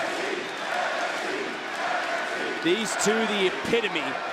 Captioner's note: crowd chants